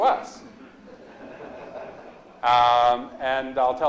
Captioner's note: audience laughs